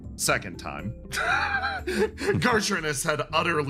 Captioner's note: laugh